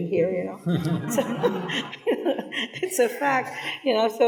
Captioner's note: people laughing